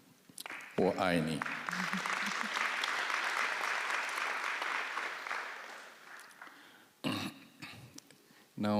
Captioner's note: applause